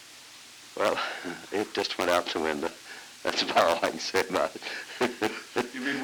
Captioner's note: chuckles